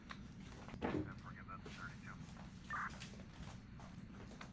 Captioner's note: chattering on cop radio